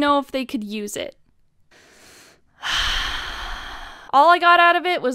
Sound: triggered Exhale

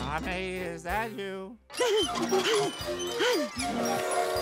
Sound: panting; whistle blowing

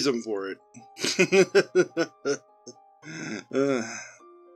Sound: Liam chuckles to himself before sombrely trailing off

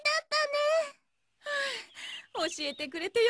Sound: Mrs. Bear sighs in relief

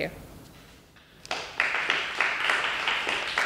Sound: applause

